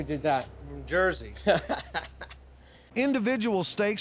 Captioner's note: laughs